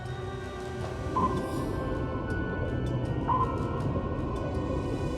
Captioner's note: sonar pings